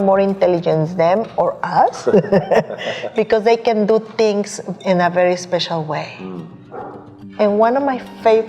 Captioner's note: laughs